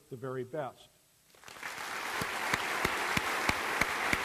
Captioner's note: applause